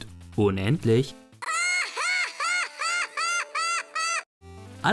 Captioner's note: FF-X laughter